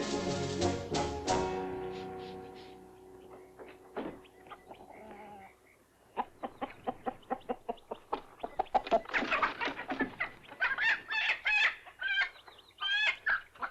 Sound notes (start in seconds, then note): 6.1 chickens clucking; 8.4 squawking; 13.5 chickens clucking